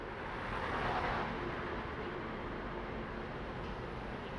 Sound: hum of a city

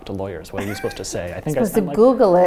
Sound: laughs

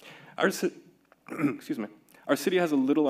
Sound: clearing throat

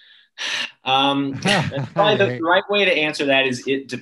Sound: sighs

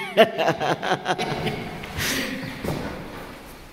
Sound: laughter

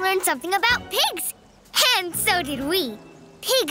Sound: none

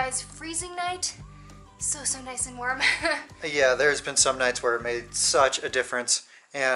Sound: laughter

